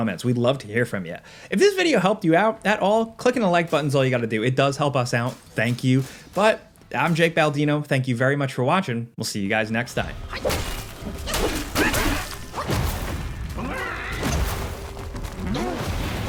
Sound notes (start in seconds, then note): 10.0 metal clanking